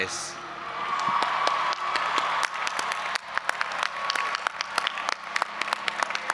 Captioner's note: audience applauding and cheering